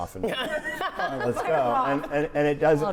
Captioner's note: all laughing